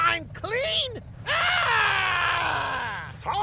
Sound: screaming

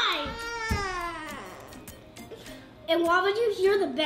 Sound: cries

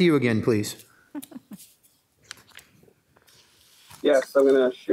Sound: woman laughing

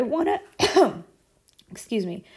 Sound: instructor sneezing

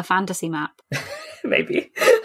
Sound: laughing

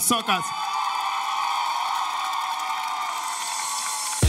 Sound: audience cheers

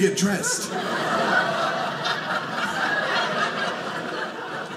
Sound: audience laughing

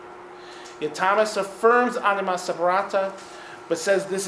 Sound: speaking in foreign language

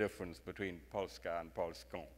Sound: speaks in foreign language

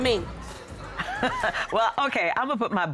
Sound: laughing

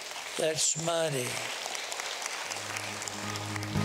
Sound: applause

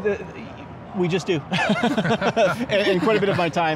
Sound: laughs

